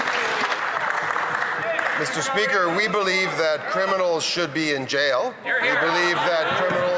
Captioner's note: some Applause